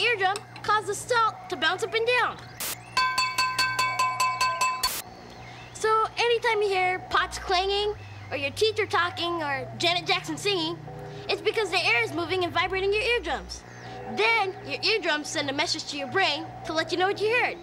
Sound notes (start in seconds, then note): 2.9 clanging